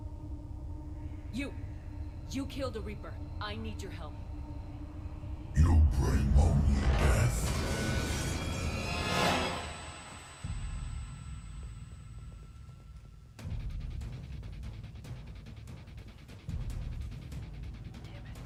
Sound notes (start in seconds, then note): 11.5 piercing noise